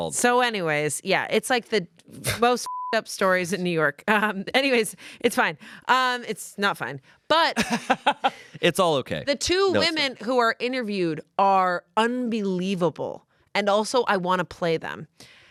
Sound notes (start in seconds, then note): 2.6 beep; 7.6 laughs